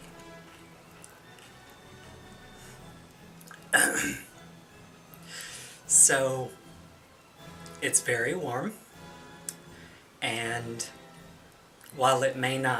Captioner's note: clears Throat